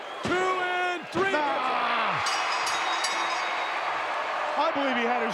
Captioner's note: bell ringing